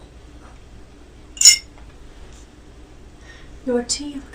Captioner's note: spoon clanking